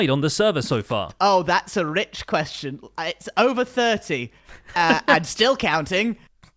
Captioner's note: snorts